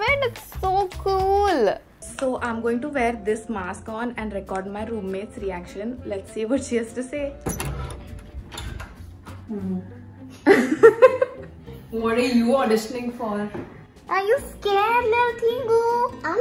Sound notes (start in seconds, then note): 7.4 door opening; 10.2 laughs